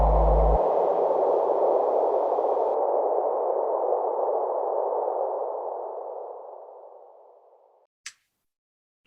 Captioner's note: tunnel sounds as music fades